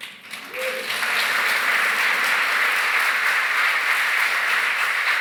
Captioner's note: cheering, applause